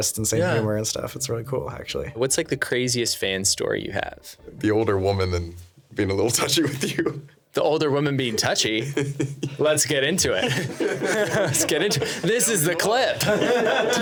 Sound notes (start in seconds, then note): 6.3 laughing; 10.3 laughing